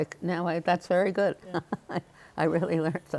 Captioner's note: laughs